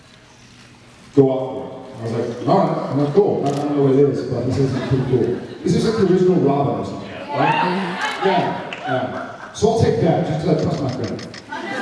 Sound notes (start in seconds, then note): 7.0 sounds of agreement